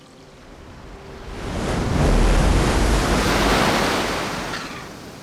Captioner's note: waves crashing